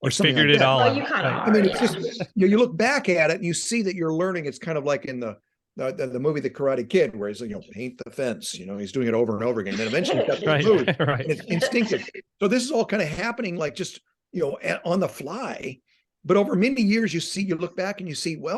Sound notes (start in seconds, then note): 9.7 laughing